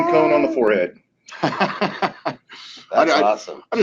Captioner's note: men laughing